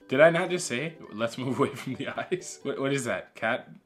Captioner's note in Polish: śmiech